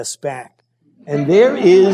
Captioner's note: laughter